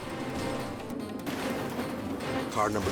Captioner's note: crash clattering